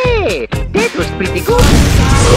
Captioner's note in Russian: взрыв